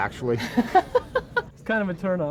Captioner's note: journalist laughs